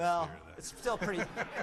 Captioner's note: laughter